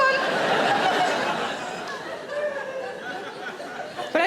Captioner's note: audience laughing